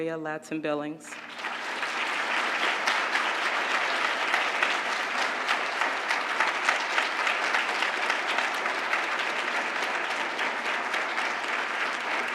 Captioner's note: applause